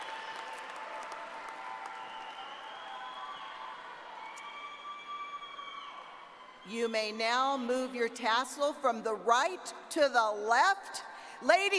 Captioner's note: cheers